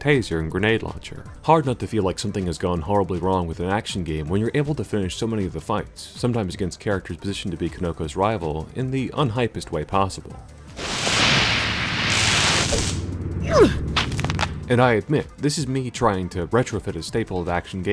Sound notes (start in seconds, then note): 10.8 taser crackles; 13.3 snap